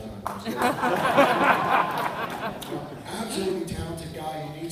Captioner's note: laughter